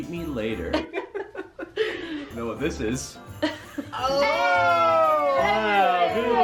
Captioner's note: laughs